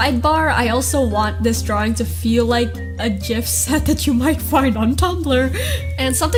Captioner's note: laughs